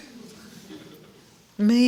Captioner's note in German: Gelächter